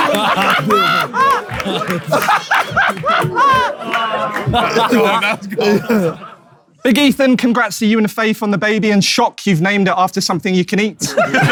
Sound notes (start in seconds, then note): 0.0 KSI laughs loudly; 11.0 people in room laughing